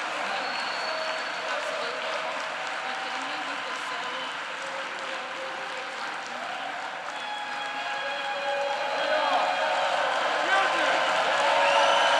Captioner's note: applause